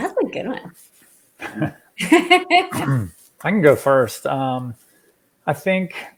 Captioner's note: laughs